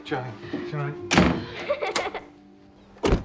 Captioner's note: crying